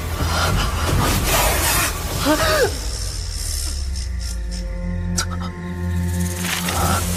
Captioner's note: hissing